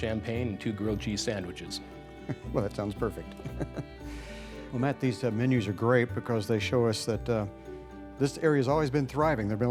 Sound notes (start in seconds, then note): 3.3 laughter